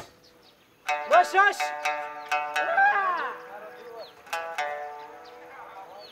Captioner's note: speaking in foreign language